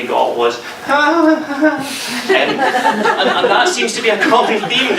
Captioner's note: nervously laughs